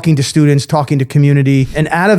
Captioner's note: screen whooshes